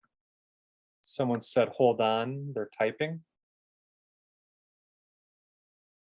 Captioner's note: silence